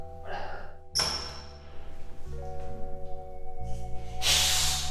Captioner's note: grunts; door squeaks